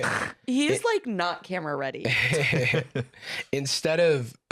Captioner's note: laughing